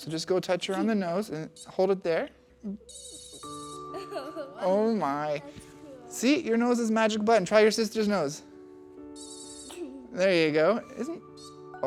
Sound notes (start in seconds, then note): 2.8 beeping Sound; 3.9 laughs; 9.1 beeping sound